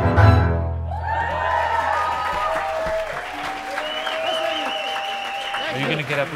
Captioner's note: crowd cheering